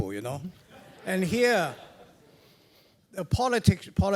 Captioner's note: laugh